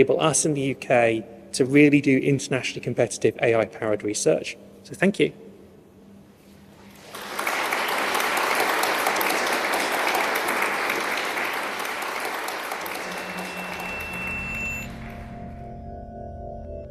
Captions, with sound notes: which will enable us in the UK to really do internationally competitive AI powered research. Thank you. [Applause] [Drone-like music]